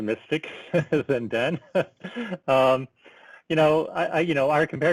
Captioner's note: chuckles